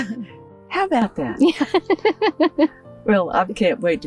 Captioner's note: laughs